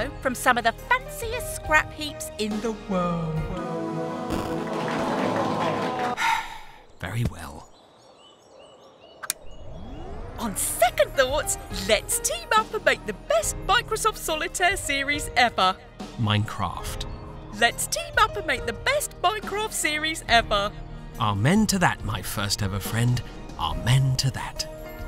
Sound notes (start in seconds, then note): 6.0 sighs